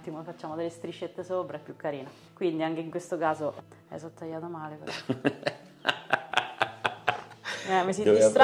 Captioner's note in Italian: Risate